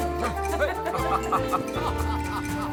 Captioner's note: Clark laughs along